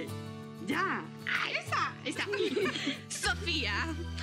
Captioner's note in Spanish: risas